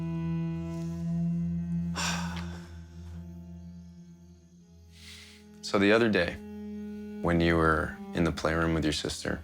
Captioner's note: sighs